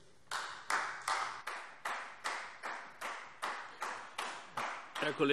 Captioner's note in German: Beifall Freie Demokraten